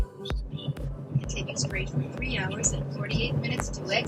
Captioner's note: voiceover